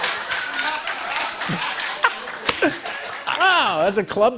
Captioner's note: laughter